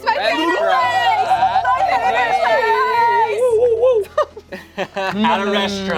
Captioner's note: players cheer